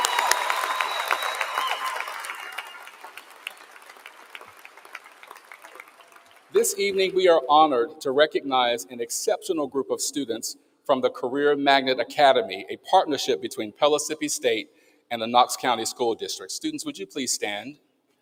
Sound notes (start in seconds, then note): 3.2 applause; 3.5 cheering